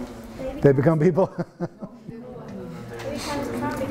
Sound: laughs

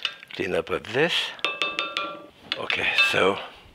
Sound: spatula thudding

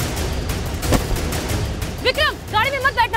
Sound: door opens

